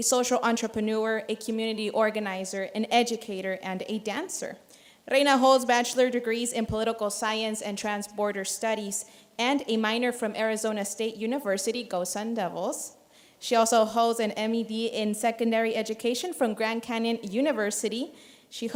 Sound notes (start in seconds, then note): none